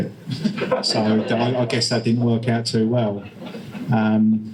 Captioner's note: audience laughter